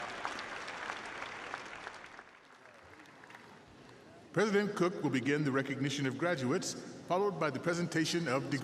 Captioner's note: applause